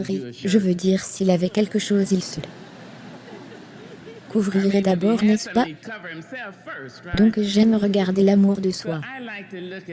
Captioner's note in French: L'audience rit